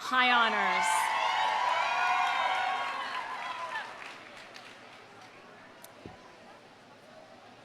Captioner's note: audience cheering; audience applauding